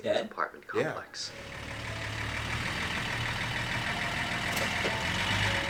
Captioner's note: engine rumbling